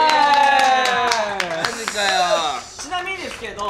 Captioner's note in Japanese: 拍手